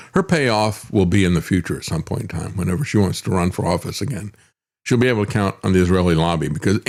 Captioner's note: none